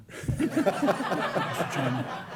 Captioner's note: laughter